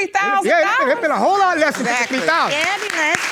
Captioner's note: audience clapping